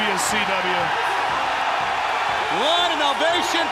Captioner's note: crowd cheering